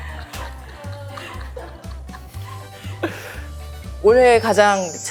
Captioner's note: hahaha